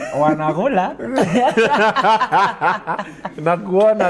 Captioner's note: laughter